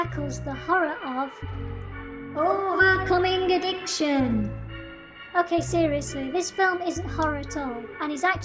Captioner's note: echo